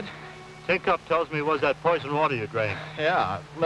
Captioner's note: none